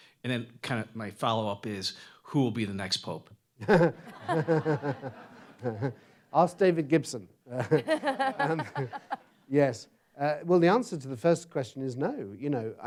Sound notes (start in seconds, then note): 3.7 audience laughs